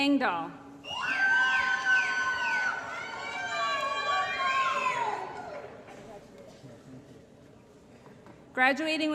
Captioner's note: applause & Cheering